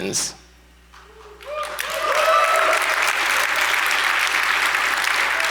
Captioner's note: audience applauds